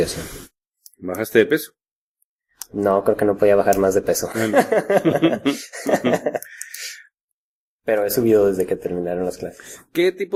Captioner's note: laughs